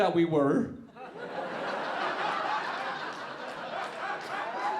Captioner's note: audience laughing